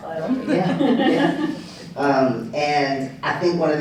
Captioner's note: laughter